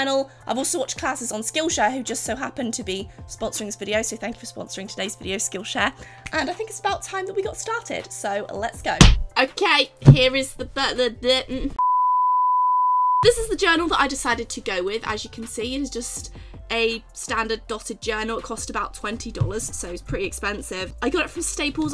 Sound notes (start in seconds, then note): 10.7 stammers; 11.8 beep